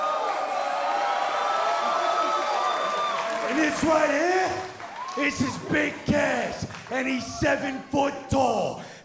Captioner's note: cheers & applause